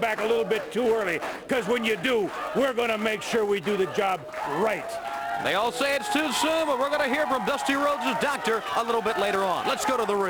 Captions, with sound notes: LOVE TO SEE YOU COME BACK A LITTLE BIT TOO EARLY BECAUSE WHEN YOU DO, WE'RE GONNA MAKE SURE WE DO THE JOB RIGHT. >> [CROWD CHEERING] >> THEY ALL SAY IT'S TOO SOON BUT WE'RE GONNA HEAR FROM DUSTY RHODES' DOCTOR A LITTLE BIT LATER ON.